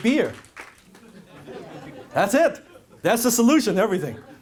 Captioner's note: crowd laughs